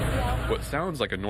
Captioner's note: bus engine humming, kids chattering